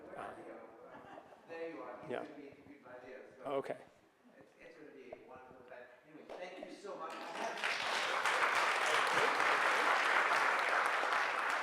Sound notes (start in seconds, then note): 1.9 speaking softly away from mic; 7.0 audience applauds